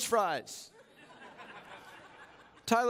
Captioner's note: chuckling